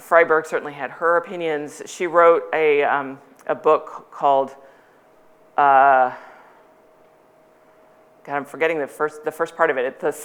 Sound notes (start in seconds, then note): none